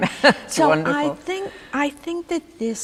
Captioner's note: laughing